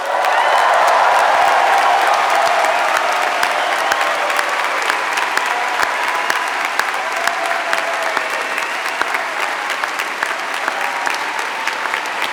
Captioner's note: applause